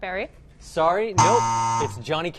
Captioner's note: buzzer